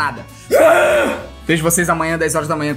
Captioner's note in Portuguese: resmunga